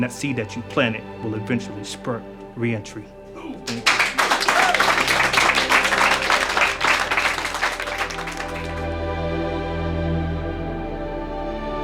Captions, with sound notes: That seed that you planted, will eventually spurt reentry. Thank you. (clapping) (gentle music)